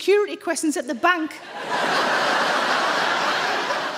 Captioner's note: audience laughs